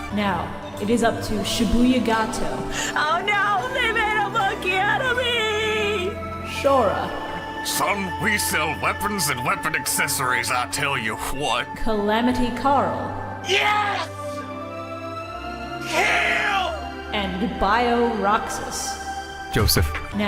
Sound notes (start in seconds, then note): 7.6 Hank Hill voice